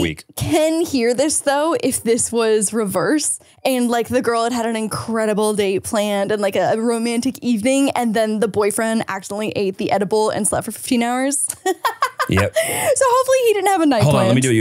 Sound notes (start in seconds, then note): 11.6 laughs